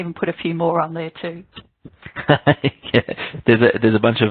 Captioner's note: laughs